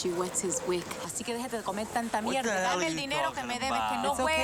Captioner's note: speaking Spanish